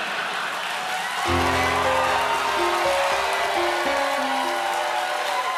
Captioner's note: cheers and applause